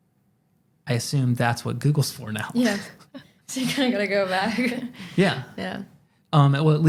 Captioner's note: laughs